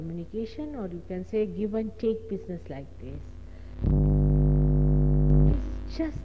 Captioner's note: noise in mp3